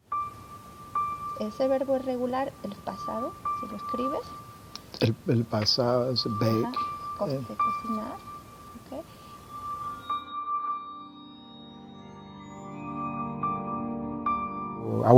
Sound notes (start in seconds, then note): 0.7 Spanish